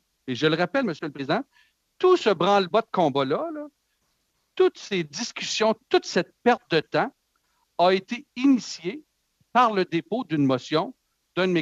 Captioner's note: speaking French